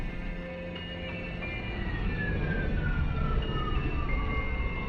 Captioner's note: ships humming